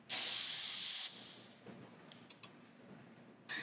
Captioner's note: none